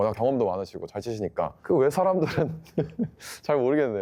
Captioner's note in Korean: 웃음